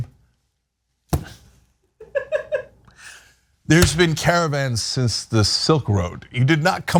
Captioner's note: laugh